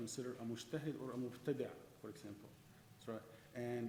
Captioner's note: speaking in foreign language